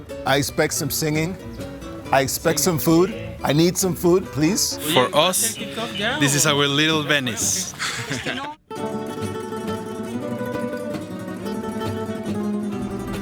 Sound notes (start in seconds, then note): 8.1 laughs; 9.0 warm folk music